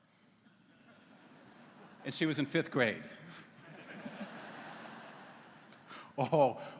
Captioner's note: laughter�